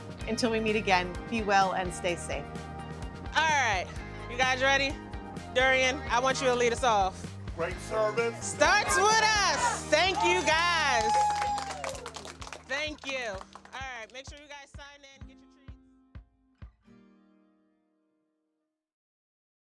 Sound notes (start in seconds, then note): 11.0 team members cheer; 15.1 calm music